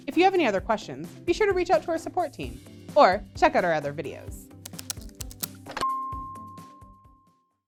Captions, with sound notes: If you have any other questions, be sure to reach out to our support team or check out our other videos. (bright music continues) (keyboard tapping)